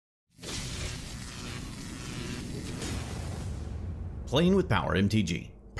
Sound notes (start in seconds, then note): 0.4 electricity buzzing